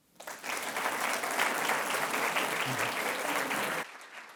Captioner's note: attendees applauding